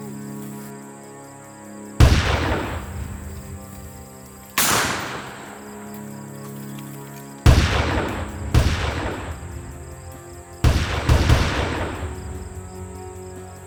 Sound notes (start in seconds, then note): 2.0 gunshots booming; 7.4 gunshots booming